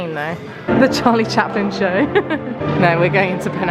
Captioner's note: laughing